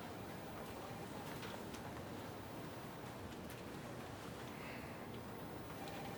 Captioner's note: phone ringing in the background